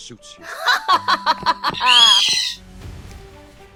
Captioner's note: Katy chuckles